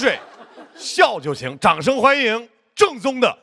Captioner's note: laughs